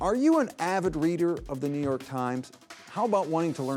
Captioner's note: none